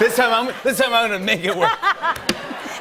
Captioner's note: laughter